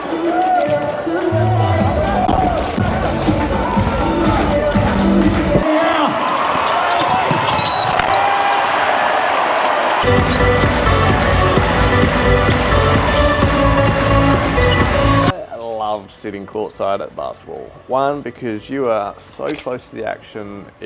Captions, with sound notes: (upbeat pop music) (sneakers squeaking) (whistle blowing) (crowd cheering) (upbeat music) (crowd clapping) I love sitting court side at basketball. One, because you are so close to the action,